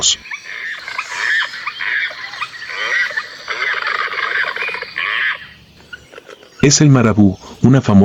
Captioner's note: laughs